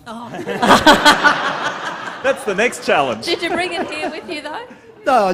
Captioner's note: laughter